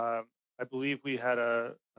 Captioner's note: speaking French